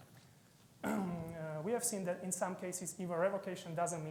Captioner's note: clears throat